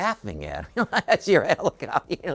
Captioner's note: laughs